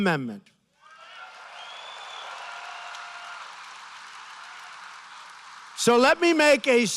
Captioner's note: applause